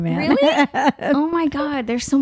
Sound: laughing

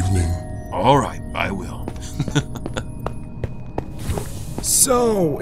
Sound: laughs

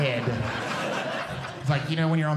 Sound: audience Laughing

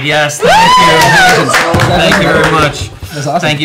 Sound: cheering

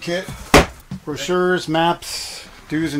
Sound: box thudding

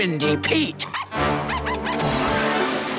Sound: barking

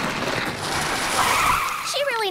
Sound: screeching

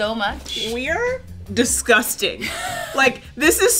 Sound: laughing

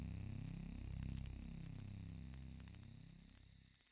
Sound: crickets chirping

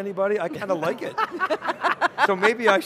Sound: all chuckle

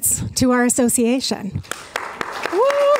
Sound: applause

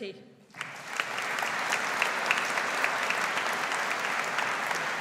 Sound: audience applauds

